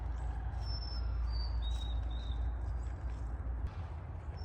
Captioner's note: birds singing